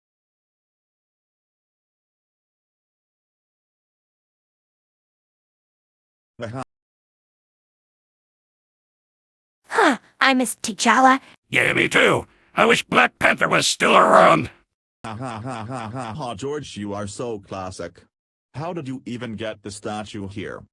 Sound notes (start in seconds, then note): 9.7 sigh; 15.3 laughing